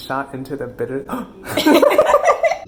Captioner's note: 𝘴𝘤𝘢𝘯𝘥𝘢𝘭𝘪𝘻𝘦𝘥 𝘨𝘢𝘴𝘱; laughing